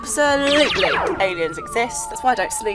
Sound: laser fires

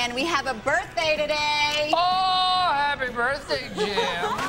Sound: laughs

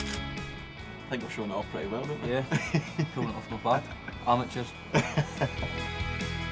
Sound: laughs

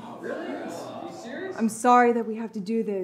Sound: people chattering

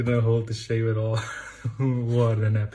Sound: laughs

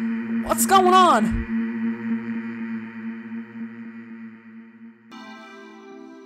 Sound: humming carries on for a few seconds, then begins to fade out

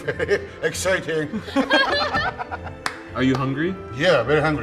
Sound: all laughing

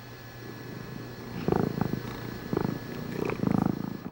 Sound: cat purring

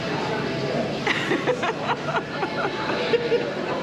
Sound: laughs

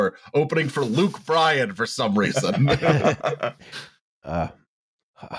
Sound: laughter

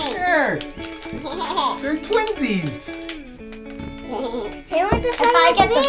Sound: laughing

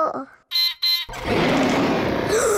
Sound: beeps and roars; gasps and cries

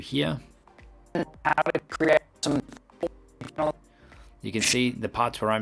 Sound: digitized speaking

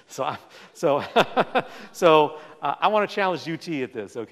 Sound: laughs

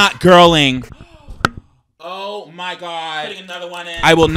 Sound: gasps

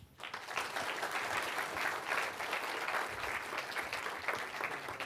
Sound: students clapping

